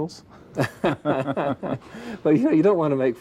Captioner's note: laughing